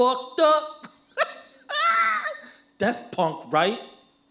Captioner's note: laughs